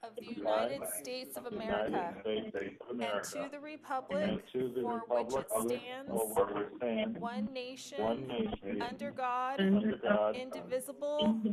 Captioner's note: reciting the pledge of allegiance